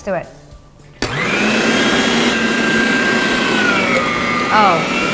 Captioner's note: grinder whirring